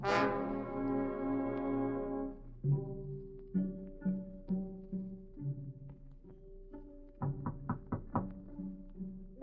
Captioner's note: knocking on door